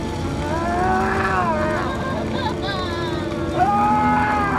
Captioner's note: woman crying; man screaming